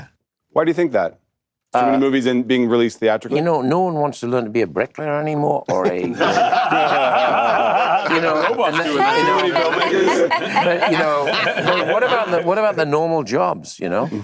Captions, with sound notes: - Why do you think that? Too many movies being released theatrically? - You know, no one wants to learn to be a brick layer anymore, or a-- (laughter) (chatter) What about the normal jobs, you know?